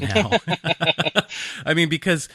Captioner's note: laughing